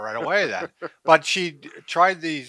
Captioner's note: laughs